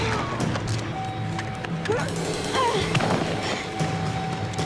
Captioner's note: grunts; beeping